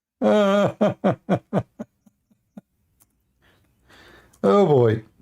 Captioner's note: Ketawa